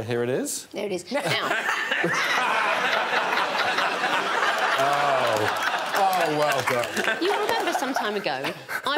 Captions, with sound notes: -Okay, here it is. -There it is, now. [all laughing] -Oh, oh, well done. -[all applauding] You remember some time ago,